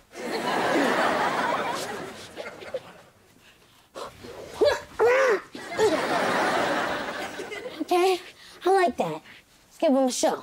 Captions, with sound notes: [grunting] Okay, I like that. Give 'em a show.